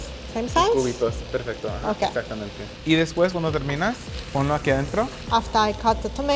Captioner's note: speaking Spanish